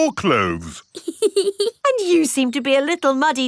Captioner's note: laughs